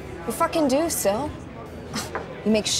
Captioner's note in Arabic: تسخر سيل